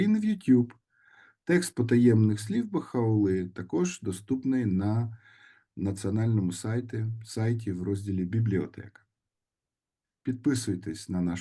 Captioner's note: in Ukrainian